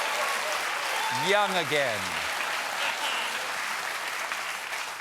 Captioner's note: applause